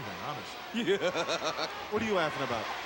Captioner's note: laugh